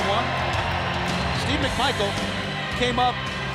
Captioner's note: crowd cheering